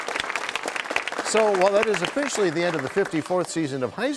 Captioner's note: cheers and applause